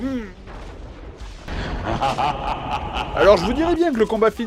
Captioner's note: evil laugh, you understand the gist